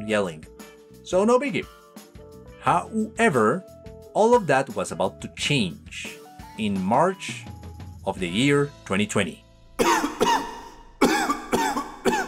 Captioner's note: loud coofing